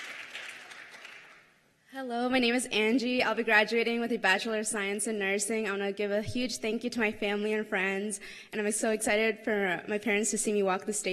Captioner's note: cheers and applause